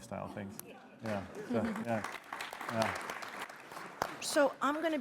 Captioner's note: applause